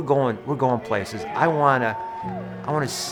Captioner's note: audience cheering